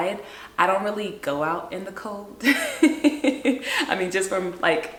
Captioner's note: laughs